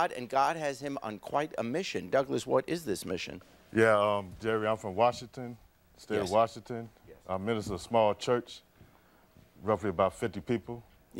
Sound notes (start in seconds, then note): none